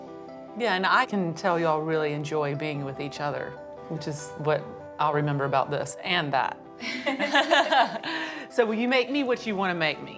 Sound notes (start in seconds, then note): 6.9 laughing